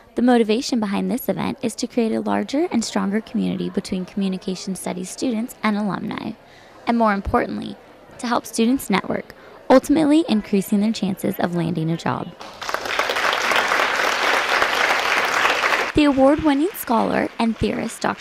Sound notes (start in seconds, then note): 12.4 applause; 14.2 background applause